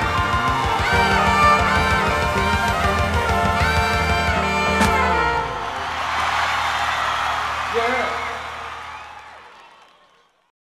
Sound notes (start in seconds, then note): 6.5 audience cheering